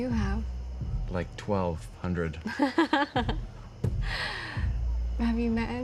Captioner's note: laughs